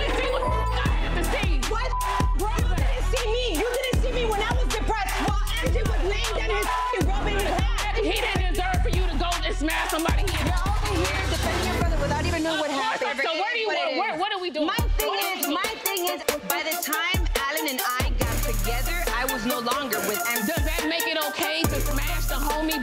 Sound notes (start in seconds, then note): 0.1 beep; 7.1 beep